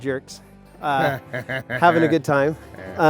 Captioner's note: laughing